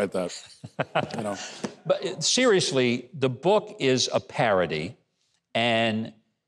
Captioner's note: laughs